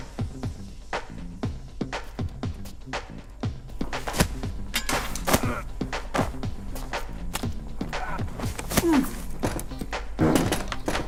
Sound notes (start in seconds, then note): 4.5 fighting sounds